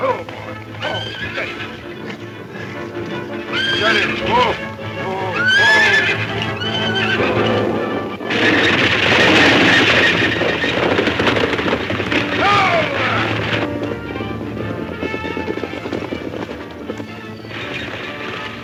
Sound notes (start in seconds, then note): 4.3 horses screaming drowns out speech; 7.4 cougar roars; 8.3 hooves thundering